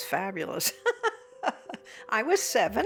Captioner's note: laughing